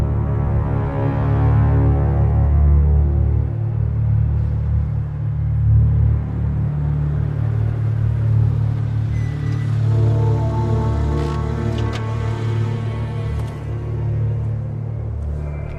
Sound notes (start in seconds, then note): 9.7 tires screeching